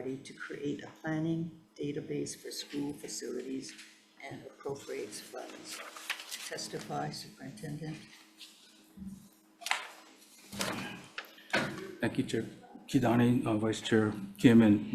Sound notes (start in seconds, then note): 5.3 paper rustling